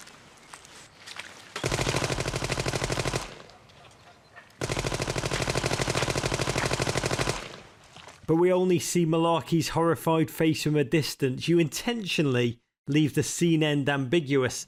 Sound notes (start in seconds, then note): 1.6 gunfire